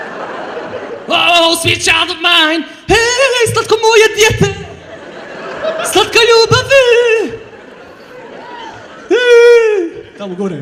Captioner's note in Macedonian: смеа